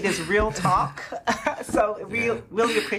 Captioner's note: laughing